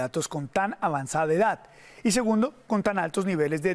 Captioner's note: HABLA EN INGLéS